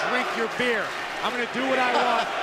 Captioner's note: laughter